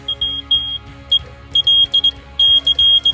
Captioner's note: beeping